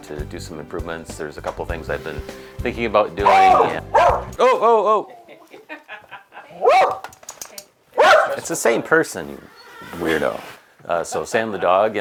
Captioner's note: dog barking